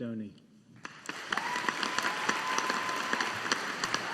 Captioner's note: audience applauding